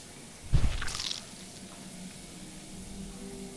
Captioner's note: squelching